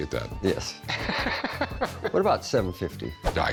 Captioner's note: laughs